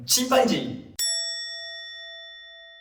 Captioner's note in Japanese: 効果音：チーン